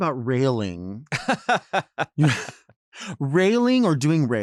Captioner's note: laughs